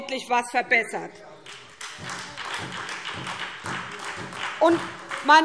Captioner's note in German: Beifall SPD - Zurufe BÜNDNIS 90/DIE GRÜNEN: Oh!